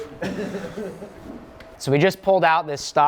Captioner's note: laughs softly